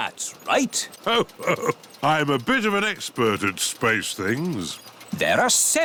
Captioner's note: chuckles